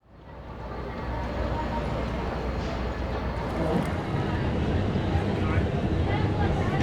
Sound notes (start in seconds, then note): 0.0 street noises